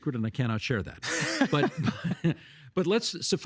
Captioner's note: laughing